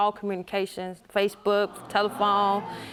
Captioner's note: audience gasping